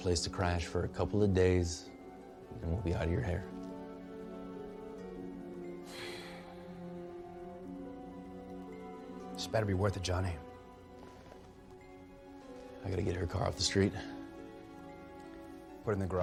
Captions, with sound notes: for r a couple of days, then we'll be out of your hair. [sighs] This better be worth it, Jonny. I gotta get her car off the streetet. Put it in the garage.